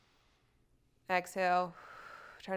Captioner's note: exhales